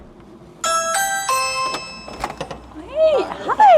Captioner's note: doorbell rings